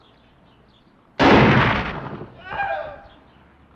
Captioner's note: gunshot and man crying out